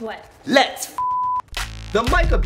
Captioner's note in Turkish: Bip